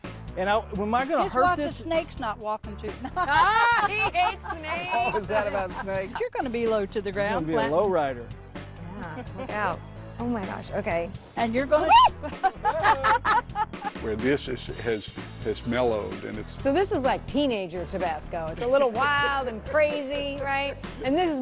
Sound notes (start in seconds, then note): 14.6 scream